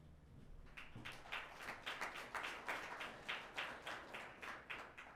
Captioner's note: audience applauding